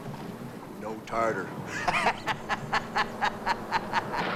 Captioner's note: laughs